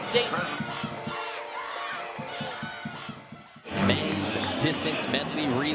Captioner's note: crowd cheering